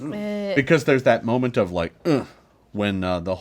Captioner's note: grunts